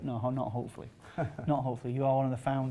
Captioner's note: laughing